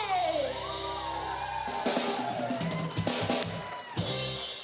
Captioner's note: cheering, applause